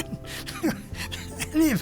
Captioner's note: laughter